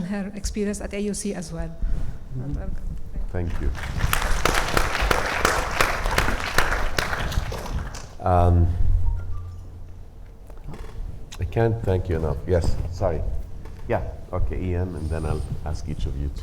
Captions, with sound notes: her experience at AUC as well. - Thank you. (audience applauding) I can't thank you enough. Yes, sorry. Yeah, okay, Ian, and then I'll ask each of you